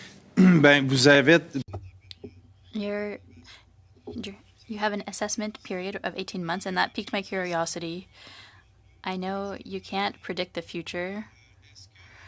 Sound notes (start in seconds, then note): 5.7 speaking French